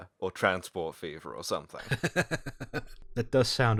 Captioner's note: laughter